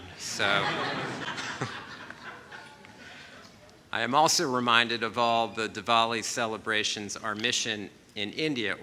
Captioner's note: laughter